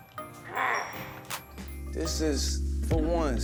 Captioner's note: growls playfully